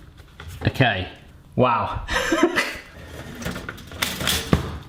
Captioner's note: laughs